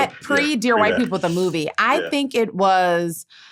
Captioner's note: laughter